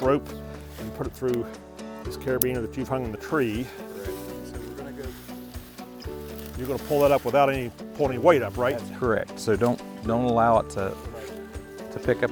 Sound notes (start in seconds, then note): 3.2 clothes rustling